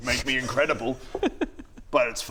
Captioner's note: sniggering